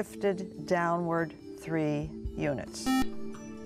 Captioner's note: buzzer